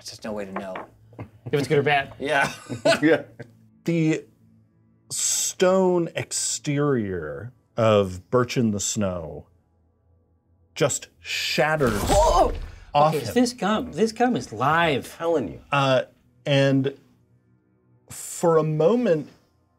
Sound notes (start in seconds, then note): 2.4 co-hosts laughing